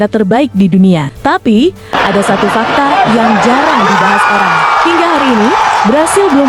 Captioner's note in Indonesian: tertawa